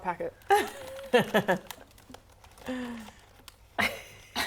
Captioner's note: crinkle